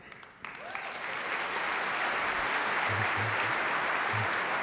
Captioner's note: audience applauding